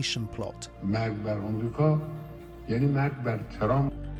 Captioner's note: speaking in a foreign language